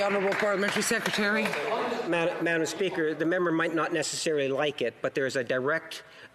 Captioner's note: applause